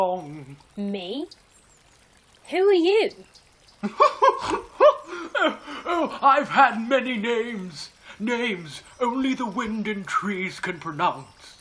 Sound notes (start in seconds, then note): 3.8 laughs oddly